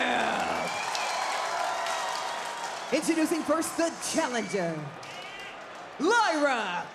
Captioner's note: applause